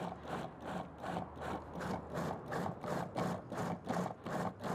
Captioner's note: food processor pulsing